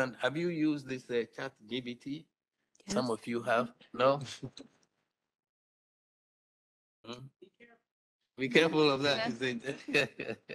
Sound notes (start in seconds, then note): 8.5 laughs